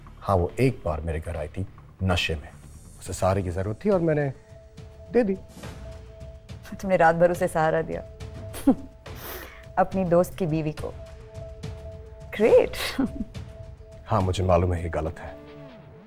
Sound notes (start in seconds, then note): 8.5 Chuckles; 13.0 Giggling